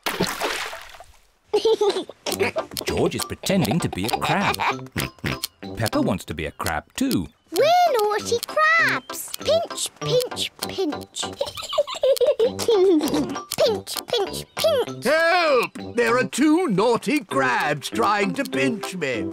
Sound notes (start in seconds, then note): 1.5 laughs; 10.4 peppa and george giggle